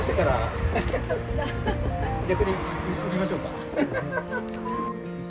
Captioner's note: laughs